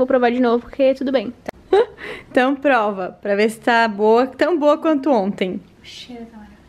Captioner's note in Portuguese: rindo